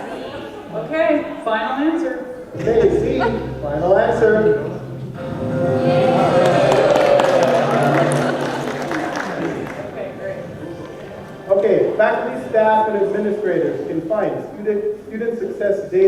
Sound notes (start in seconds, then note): 5.6 applause and cheering